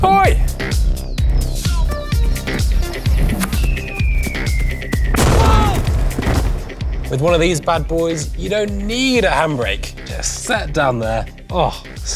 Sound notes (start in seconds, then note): 3.6 multitool plummets; 5.1 explosion; 5.2 thief screams